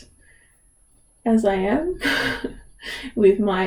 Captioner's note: laughs